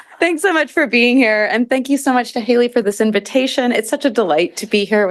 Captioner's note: laughter